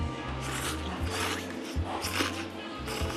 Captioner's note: slurp